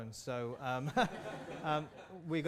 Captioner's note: laughter